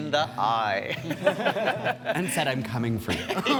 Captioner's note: all chuckling